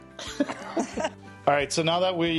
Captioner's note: all laugh